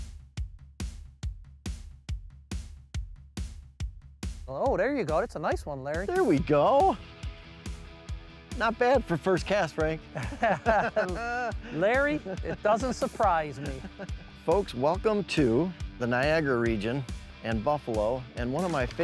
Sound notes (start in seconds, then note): 0.3 upbeat instrumental music; 7.6 upbeat instrumental music; 10.0 both laugh